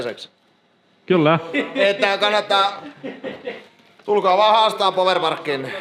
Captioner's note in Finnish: naurua